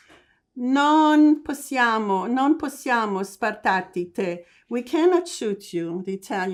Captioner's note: italian